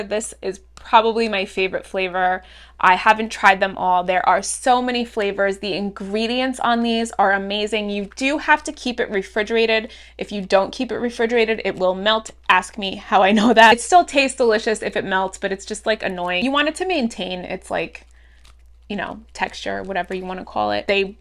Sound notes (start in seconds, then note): 13.3 giggles